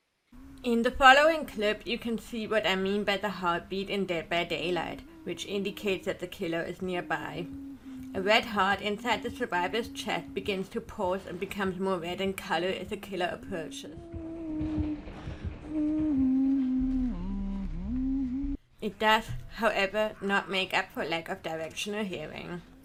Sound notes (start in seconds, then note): 13.8 heart beating; 16.2 suspense music